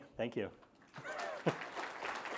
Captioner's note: applause